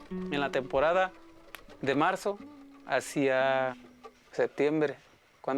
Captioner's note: speaking Spanish